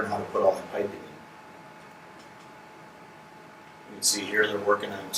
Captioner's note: silence